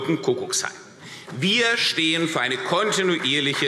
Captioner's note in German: Beifall